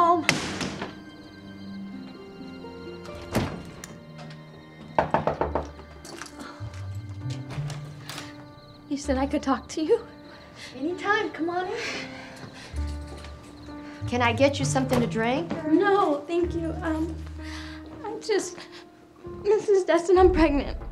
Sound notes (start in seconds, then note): 0.3 door slamming; 4.9 loud knocking